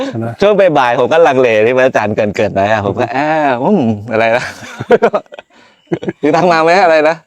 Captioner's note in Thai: เสียงหัวเราะ